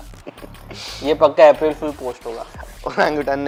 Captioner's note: laughs; scoffs